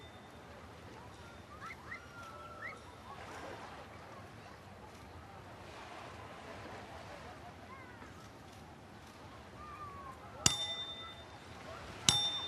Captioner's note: light ringing; stronger ringing; background chatter; water lapping on shore; ringing